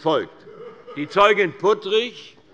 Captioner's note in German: Lachen